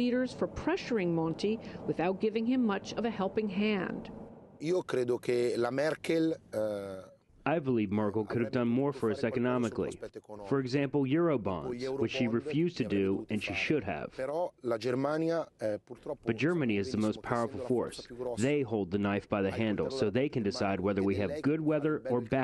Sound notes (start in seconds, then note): 5.7 through translator